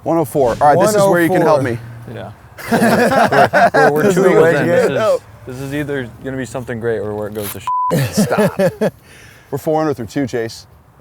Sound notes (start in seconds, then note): 2.5 laughs; 7.9 laughs